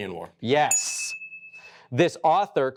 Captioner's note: buzzer dings